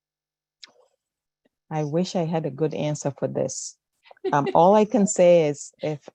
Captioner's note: laughter